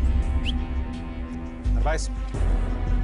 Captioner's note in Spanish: Silbido